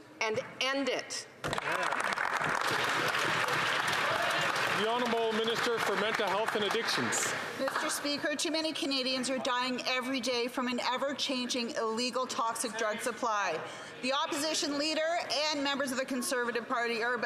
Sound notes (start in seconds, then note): 6.0 some Applause